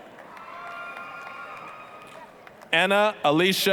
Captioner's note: applause, cheering